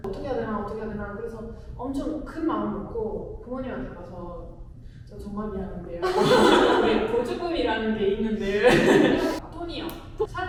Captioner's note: laughs